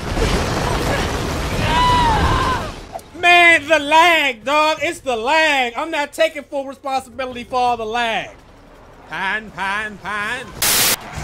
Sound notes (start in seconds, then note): 1.6 woman screams; 11.0 sirens